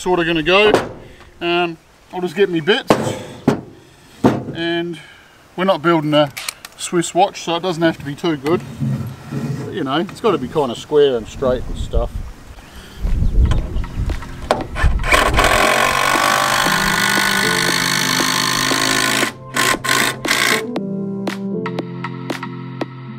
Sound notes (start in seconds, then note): 17.1 impact Driver Whirring; 20.5 upbeat Music